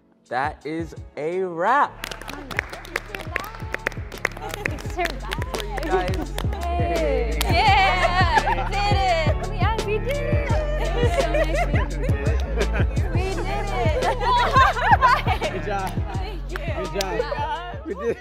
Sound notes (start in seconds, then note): 1.9 group clapping; 7.4 group cheering; 11.4 group chatting and laughing